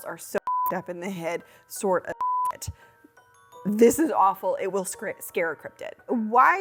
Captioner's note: beep